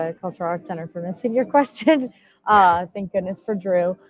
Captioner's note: laughs